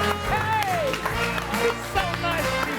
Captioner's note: group applauds